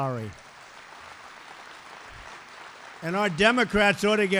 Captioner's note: applause